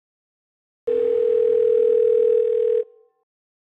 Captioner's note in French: Sonnerie de téléphone, Ringtone